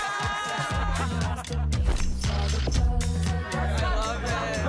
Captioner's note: laughter and unintellible dialoe